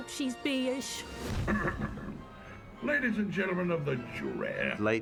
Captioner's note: clears throat